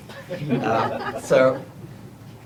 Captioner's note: laughter